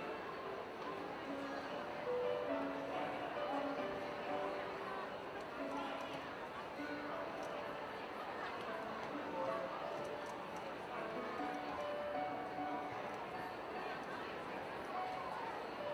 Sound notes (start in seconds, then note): none